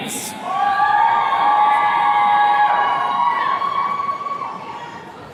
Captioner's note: attendees cheering